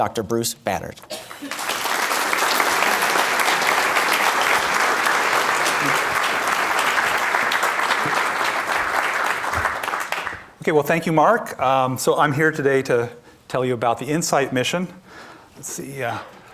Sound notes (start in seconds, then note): 4.0 applause